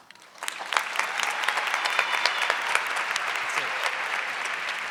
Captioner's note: audience clapping